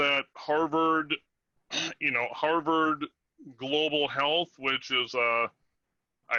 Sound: coughs

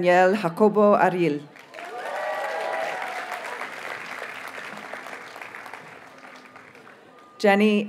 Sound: audience cheers and applauds

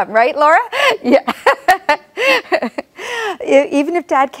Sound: laughs

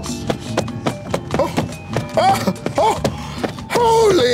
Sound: shoes thumping

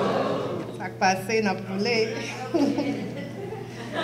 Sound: laughs; speaks in French; audience laughter

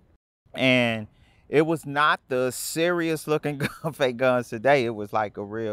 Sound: chuckles

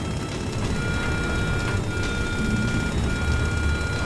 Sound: alarm beeping

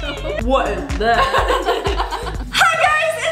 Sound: laughs

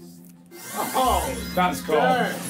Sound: electronic whizzing

